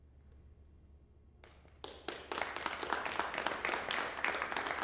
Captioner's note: applause